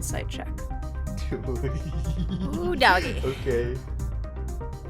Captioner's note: giggles